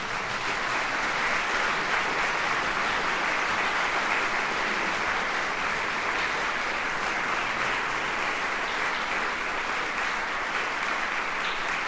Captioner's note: applause